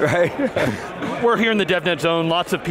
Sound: laughing

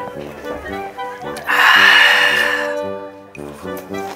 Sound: exclaiming

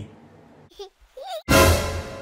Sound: laughs

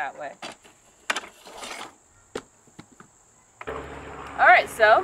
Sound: drill whirring

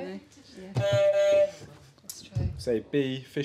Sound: honk

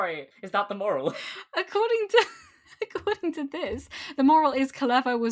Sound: laughs

